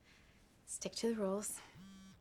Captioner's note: cell phone buzzing